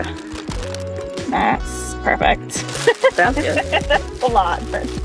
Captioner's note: laugh